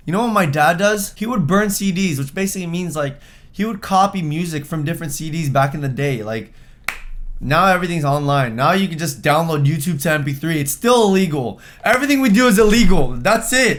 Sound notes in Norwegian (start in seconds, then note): 6.8 klapp